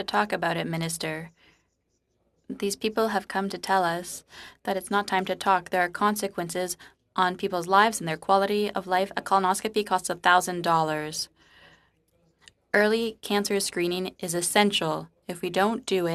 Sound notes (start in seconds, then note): 5.8 speaking French